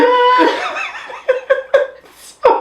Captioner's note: both laughing